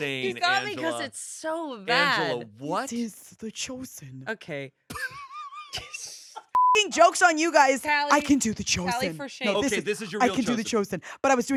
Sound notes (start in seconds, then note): 4.9 laughs; 6.5 beep